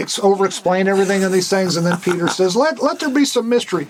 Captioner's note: Gould laughs